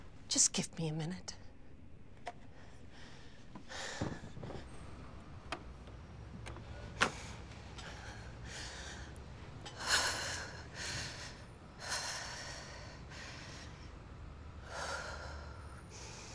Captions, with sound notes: - Just give me a minute. [Kate sighs] [Kate sighing heavily]